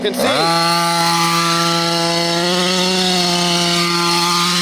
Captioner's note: engine roaring